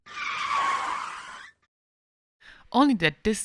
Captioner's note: tires squealing